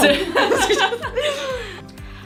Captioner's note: laughing